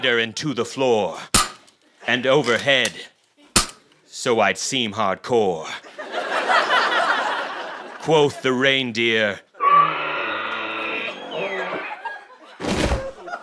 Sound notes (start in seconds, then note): 9.5 dying reindeer noise; 12.6 thud